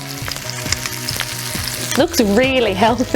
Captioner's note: sizzling